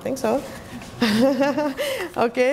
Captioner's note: laughs